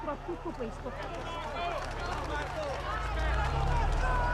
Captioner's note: crowd shouts and applauds